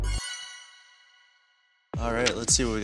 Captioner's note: electronics beeping